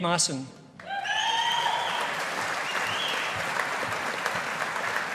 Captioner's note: audience applauding